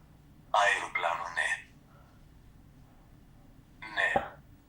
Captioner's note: achmet – artificial male voice